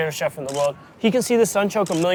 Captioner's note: camera shutter clicking